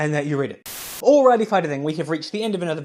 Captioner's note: Static